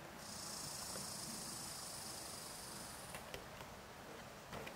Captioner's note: squirrel chirping